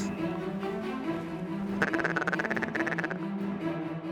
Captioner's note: duck calls